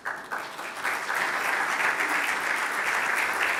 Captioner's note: applause